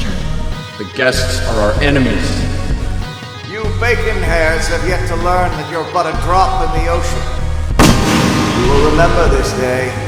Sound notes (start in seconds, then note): 7.8 gunshot banging